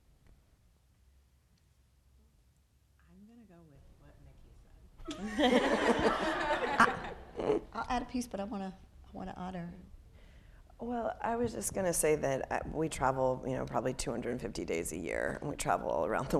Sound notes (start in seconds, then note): 5.0 people laughing